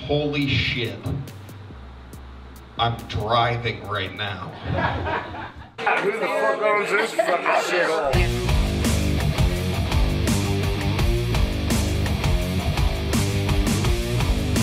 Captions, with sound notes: holy shit ... I'm driving right now. (audience laughing) - Who the fuck owns this fucking shit hole? (intense music)